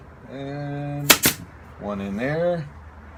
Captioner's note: nail gun operating